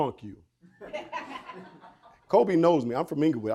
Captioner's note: woman laughing